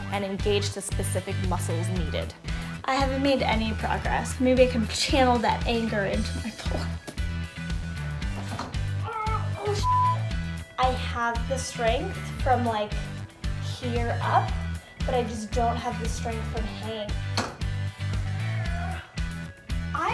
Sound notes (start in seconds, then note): 7.1 upbeat music; 8.8 groans; 9.7 beep; 17.3 upbeat music